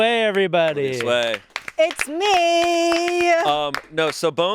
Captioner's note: all applauding